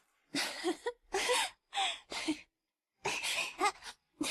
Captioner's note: tiếng cười